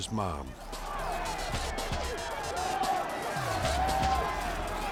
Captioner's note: crowd shouting